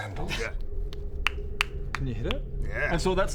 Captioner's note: pop pop pop